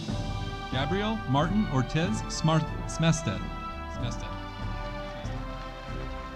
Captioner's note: audience applauding